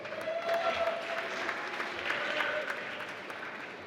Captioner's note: applause